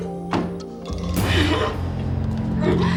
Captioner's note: Nancy sobbing; door slamming; Nancy grunting; suspenseful music